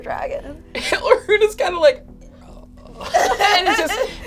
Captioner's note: laughing